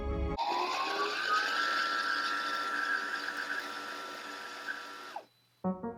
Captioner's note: bobbin winding noises